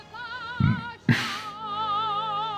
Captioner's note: burps